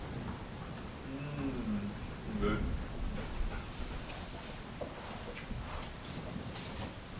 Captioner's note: moans